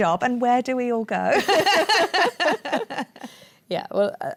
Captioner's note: laughter